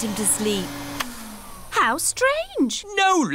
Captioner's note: whirring stops